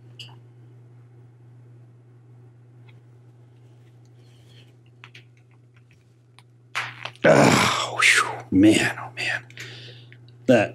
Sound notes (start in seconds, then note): 6.8 crack noise